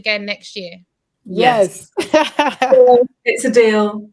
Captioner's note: laughs